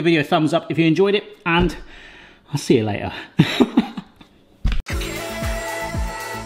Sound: laughs

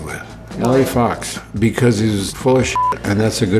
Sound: beep

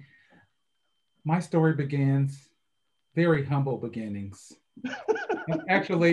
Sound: all laugh

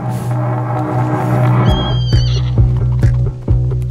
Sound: neighs

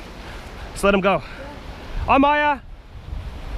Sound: speaking Cantonese

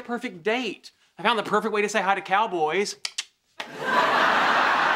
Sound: clicks tongue

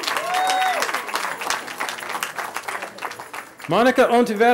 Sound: cheering

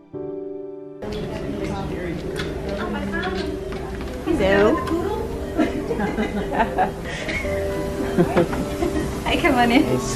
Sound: background chatter

